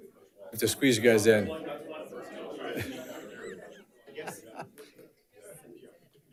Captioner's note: panelist chattering